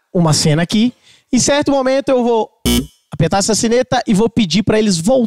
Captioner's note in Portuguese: campainha